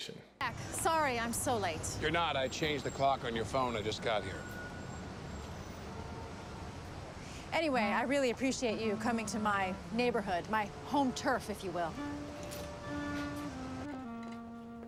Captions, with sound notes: - Jack sorry I'm so late. - You're not. I changed the clock on your phone. I just got here. (hustle of NYC) - Anyway, I really appreciate you coming to my neighborhood, my home turf if you will. (tranquil music)